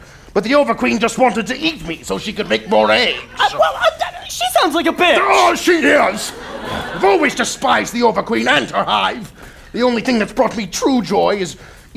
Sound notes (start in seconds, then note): 3.7 stammering